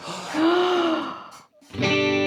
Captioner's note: inhaling